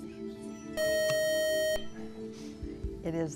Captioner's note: buzzer